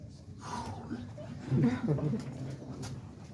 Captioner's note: sigh; laughter